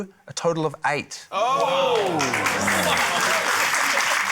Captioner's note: exclaiming; applause